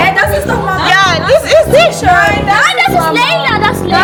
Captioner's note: speaking German